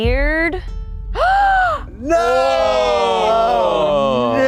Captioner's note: gasping